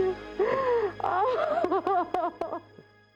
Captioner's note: crying